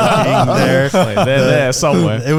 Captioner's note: laughing